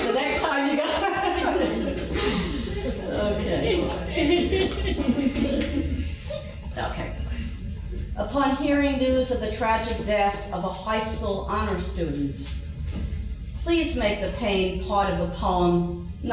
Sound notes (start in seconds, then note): 1.6 laughing